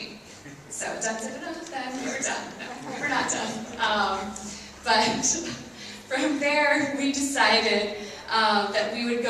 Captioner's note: laughs